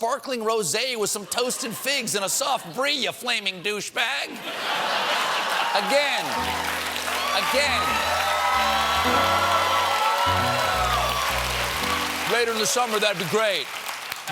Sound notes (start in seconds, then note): 4.3 laughter; 4.6 cheers and applause; 9.7 piano riff